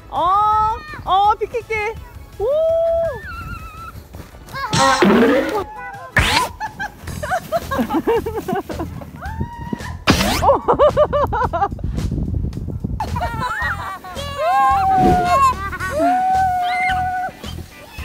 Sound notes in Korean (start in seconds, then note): 6.2 웃음 & 함성; 10.4 웃음; 13.0 웃음